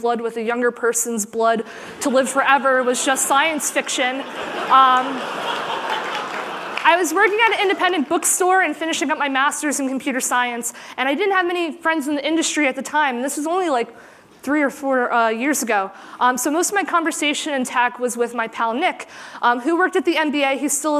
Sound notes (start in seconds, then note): 2.6 laughter